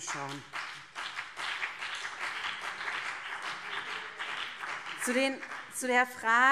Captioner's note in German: Beifall BÜNDNIS 90/DIE GRÜNEN und vereinzelt CDU